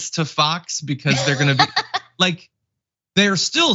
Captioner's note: laugh